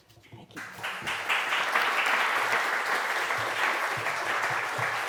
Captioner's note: applause